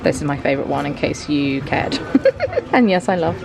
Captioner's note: giggles